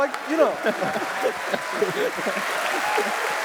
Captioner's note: cheers